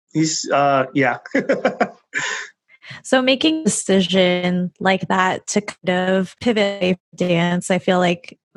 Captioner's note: laughing